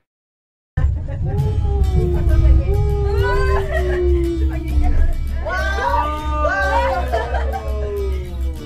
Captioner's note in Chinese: 尖叫~